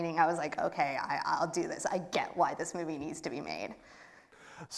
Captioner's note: none